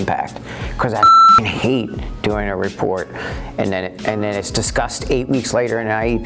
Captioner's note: beep